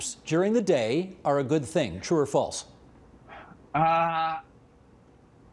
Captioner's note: laughing